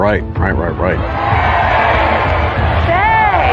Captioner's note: cheering